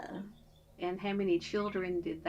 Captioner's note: laughs